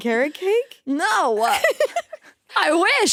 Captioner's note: laughing